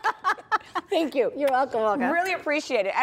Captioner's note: laughs